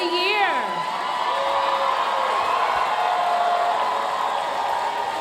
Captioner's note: audience cheering and applauding